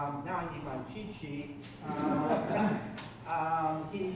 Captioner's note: chuckling